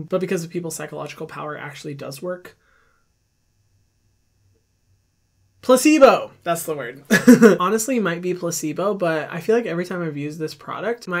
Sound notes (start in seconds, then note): 7.1 laughing